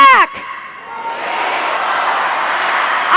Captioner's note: crowd